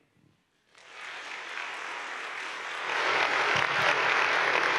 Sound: audience applauding

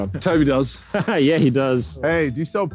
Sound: laughing

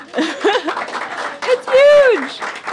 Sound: applause

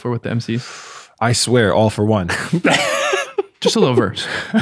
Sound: innocent chuckles

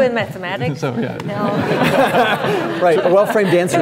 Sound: laughing

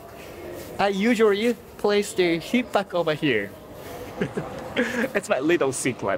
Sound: chuckles

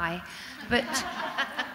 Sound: audience laughs

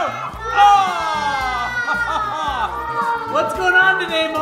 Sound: everyone laughs

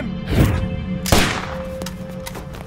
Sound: gunshot

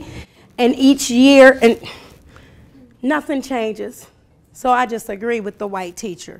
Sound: sighs

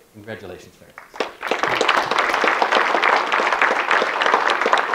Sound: audience clapping

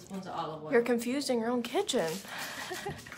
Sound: laughs

